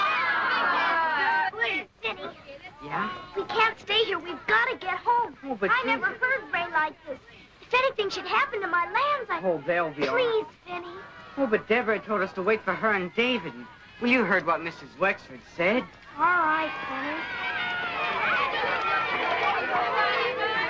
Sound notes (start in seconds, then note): 13.8 children cheering; 17.8 thunder claps